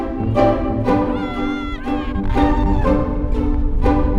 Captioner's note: playful instrumental music; cheering; wind gusting